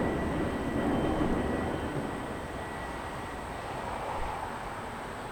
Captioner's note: wind blowing